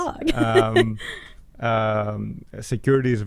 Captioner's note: laughing